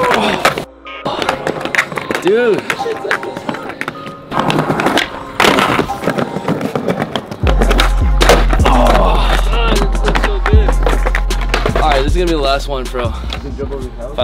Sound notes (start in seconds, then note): 0.2 groans; 4.7 hip hop instrumental music; 8.5 groans